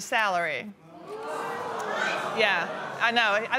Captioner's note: audience exclaiming surprise